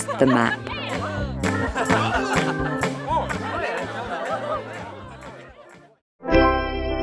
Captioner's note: crowd chatting happily; upbeat music; cheerful organ music